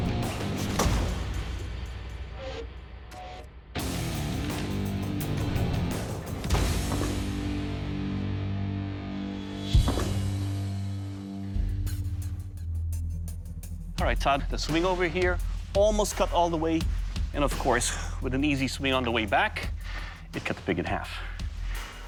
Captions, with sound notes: [blade slashing] All right, Todd. The swing over here almost cut all the way, and, of course, with an easy swing on the way back, it cut the pig in half.